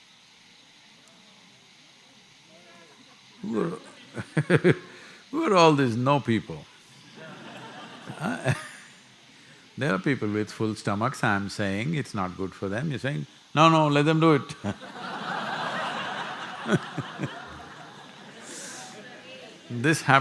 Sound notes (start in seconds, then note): 3.2 laughs; 7.0 laughter; 18.4 laughter